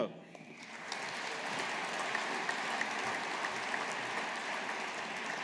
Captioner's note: audience applauding